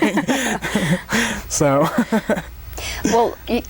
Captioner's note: both laugh